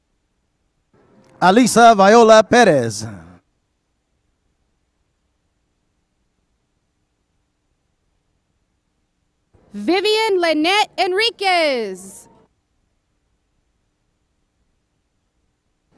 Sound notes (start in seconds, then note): none